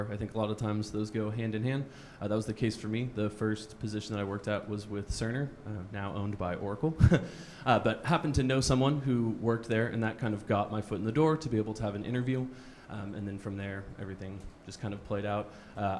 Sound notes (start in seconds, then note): 7.0 chuckles